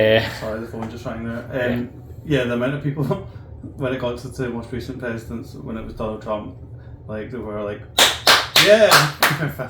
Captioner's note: claps loudly